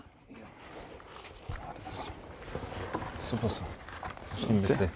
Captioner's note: soft murmuring